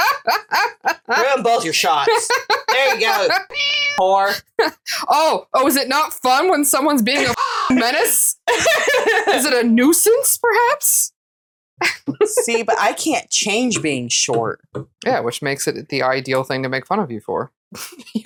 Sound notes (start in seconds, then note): 2.8 meow; 7.4 caw